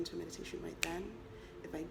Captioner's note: snap